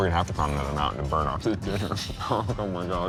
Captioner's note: laughing